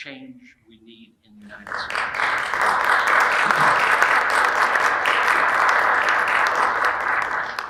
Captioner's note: audience applauding